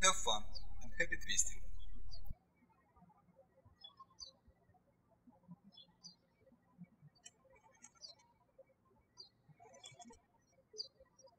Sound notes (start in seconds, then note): 3.6 birds chirping